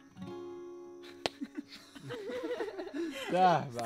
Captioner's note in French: rires